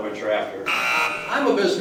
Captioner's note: buzzer